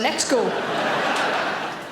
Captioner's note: audience laughing